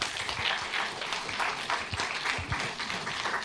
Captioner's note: applause